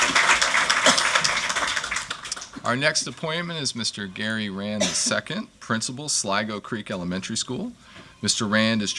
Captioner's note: applause